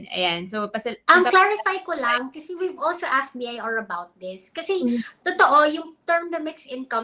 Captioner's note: speaks in Filipino